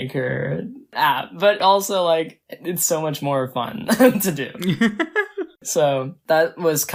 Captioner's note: laughs